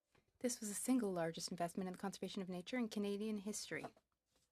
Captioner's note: speaking French